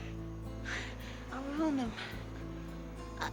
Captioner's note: chuckles nervously